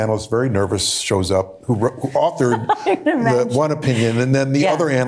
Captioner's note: laughing